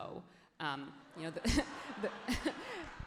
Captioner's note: everyone laughs genuinely